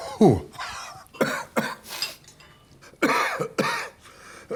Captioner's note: Tommy coughs